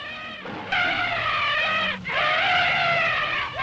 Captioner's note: animals Lowing, Screeching; trumpeting